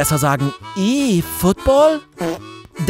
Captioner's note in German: Furzgeräusch